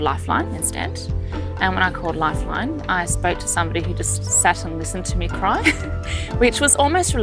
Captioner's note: laughs